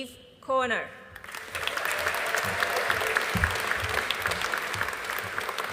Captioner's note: audience applauding